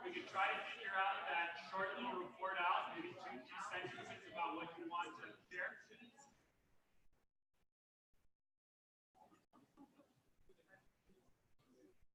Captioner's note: off microphone